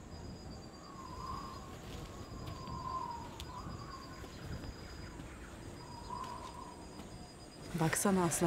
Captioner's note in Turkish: Rüzgâr sesi